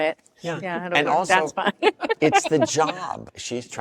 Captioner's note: laughs